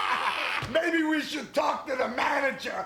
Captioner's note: laugh